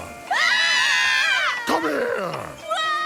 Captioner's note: group screaming